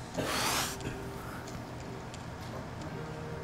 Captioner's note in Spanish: llorando